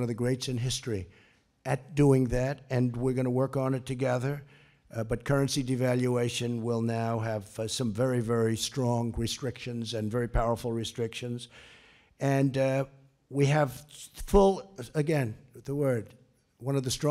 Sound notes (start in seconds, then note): none